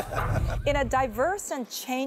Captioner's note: laughter